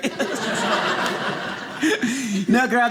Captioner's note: audience laughing